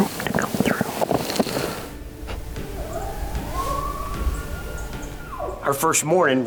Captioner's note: elk bugling; objects knocking